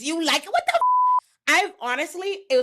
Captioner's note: beep